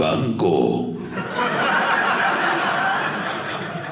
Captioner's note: audience laughing